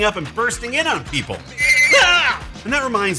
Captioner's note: llama Sounds